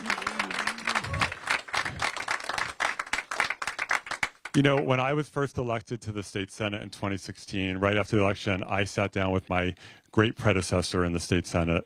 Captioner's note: applause